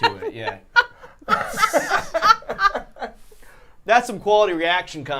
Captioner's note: all laughing